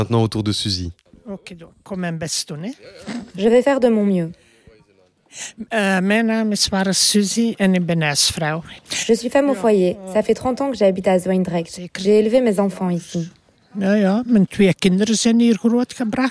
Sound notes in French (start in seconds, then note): 5.5 rires